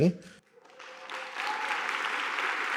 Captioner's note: audience applauding